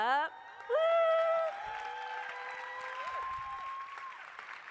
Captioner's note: applause, cheering